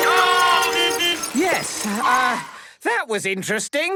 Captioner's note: beeping; whistle blowing